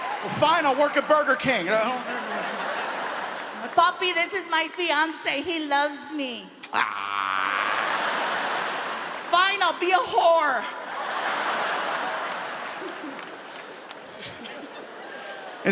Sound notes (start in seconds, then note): 6.6 imitates groaning; 10.6 audience applauding; 10.7 audience laughs; 12.8 Gabriel chuckles